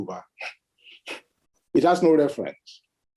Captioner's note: scoffs